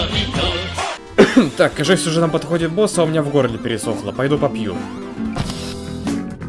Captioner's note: cough